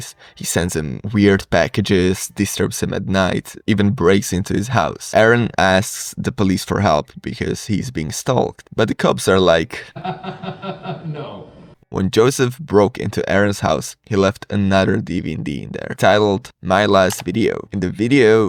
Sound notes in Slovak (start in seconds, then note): 9.9 hahahahaha